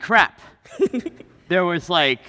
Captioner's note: laughing